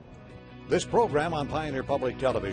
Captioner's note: voiceover